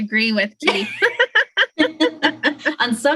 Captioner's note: laughter